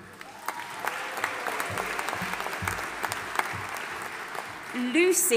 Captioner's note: audience applauding and cheering